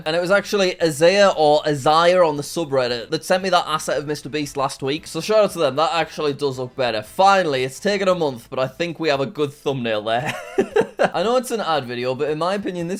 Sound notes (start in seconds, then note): 10.2 chuckles